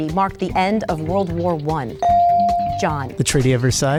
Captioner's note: bell dings